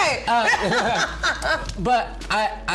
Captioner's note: laughs